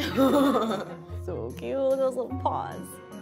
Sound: laughs

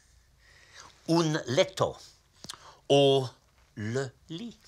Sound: speaks foreign phrase

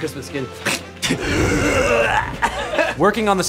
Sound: groaning

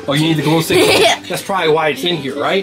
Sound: laughs

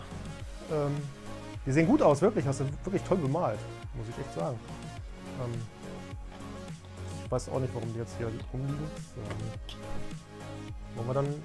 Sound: awkward mumbling

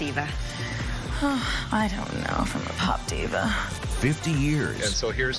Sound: sighs

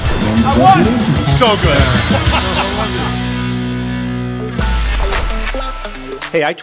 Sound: laughing; upbeat music

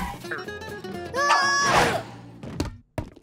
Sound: grunting

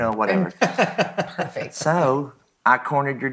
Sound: laughs

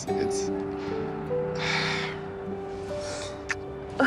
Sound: sighs; smooches

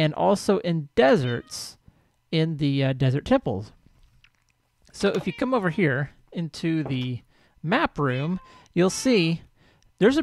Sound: cat meows

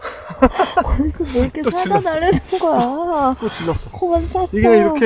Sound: laughs

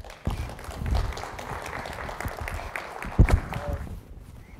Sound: audience clapping

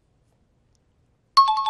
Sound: bell rings

